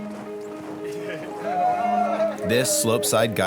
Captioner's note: people cheering; people laughing